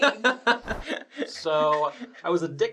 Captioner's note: laughter